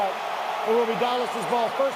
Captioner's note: cheering